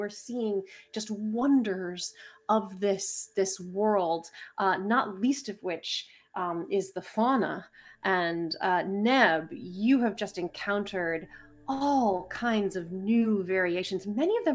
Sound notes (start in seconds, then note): none